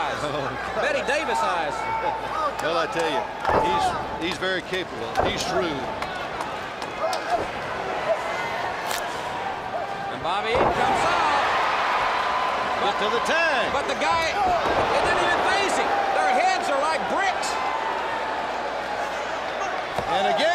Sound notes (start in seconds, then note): 12.9 crowd cheering